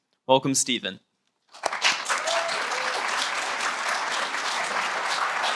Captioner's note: applause